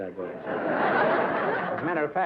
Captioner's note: laughter